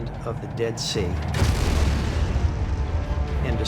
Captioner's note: explosion